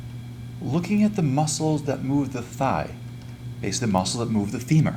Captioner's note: voiceover